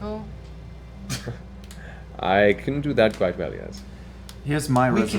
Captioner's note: laughs